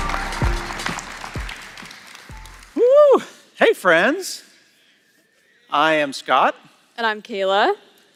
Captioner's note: applause